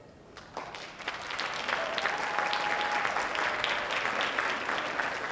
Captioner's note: audience applauding